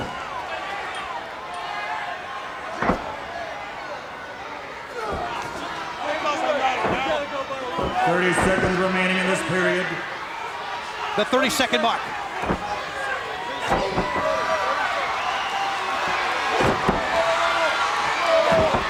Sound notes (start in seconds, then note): 5.0 wrestler grunting; 12.5 crowd cheering; 12.5 wrestler grunts; 16.5 body slamming